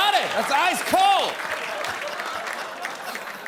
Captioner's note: laughter and applause